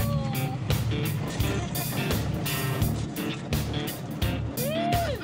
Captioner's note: laughs